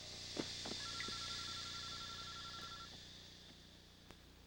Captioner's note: ring